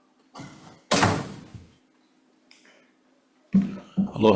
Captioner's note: door shuts